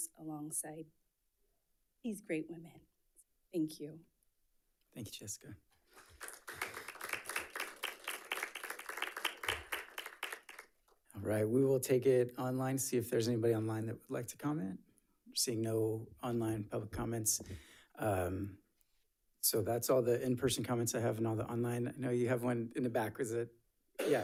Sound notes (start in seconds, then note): 5.9 audience clapping